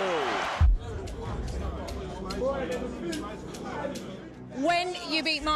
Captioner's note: crowd chattering